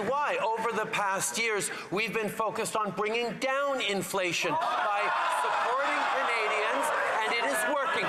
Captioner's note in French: voix de l'interprète